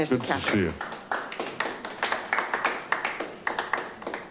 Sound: group clapping

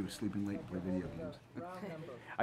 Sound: both chuckle

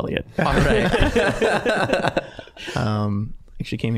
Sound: all laughing

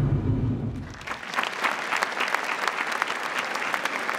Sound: applause

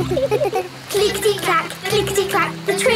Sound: laughing

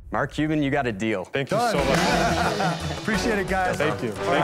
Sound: laughs

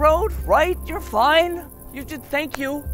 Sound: hands clap

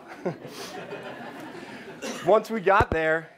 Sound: laughing

